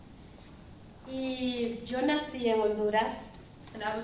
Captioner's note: speaking spanish